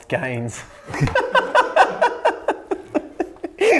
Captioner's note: laughing